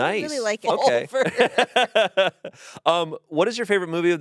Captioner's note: laughs